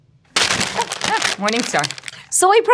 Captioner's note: wrapper rustling